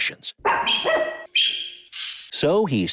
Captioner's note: dog barking